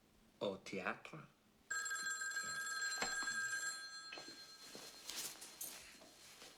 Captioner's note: phone Rings